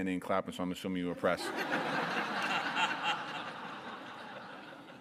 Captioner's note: audience laughter